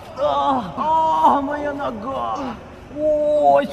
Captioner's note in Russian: стон